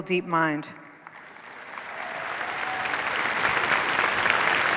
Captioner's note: applause